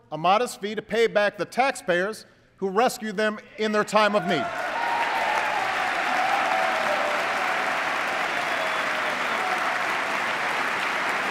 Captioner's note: applause